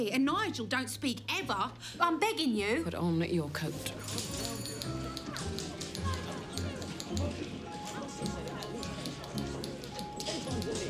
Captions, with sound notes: and Nigel don't speak, ever. I'm begging you. - Put on your coat. (people chattering) (typewriters clacking)